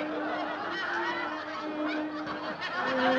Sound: roars of laughter

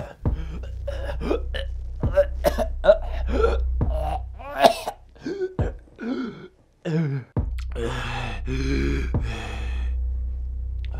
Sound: Dave chokes

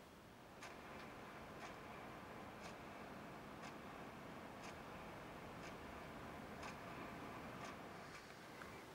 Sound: clock ticking

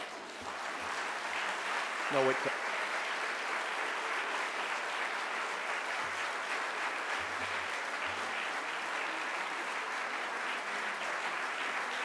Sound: audience applauding

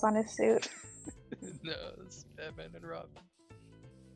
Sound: laughs

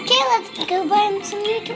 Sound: none

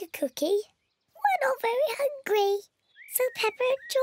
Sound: in squeaky voice

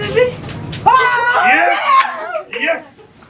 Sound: happy customer noises

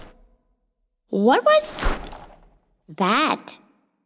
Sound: loud clank; loud thud

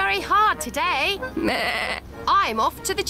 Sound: bleats

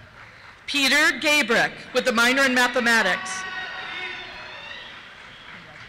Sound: cheers

